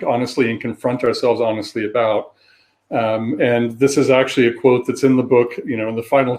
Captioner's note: erm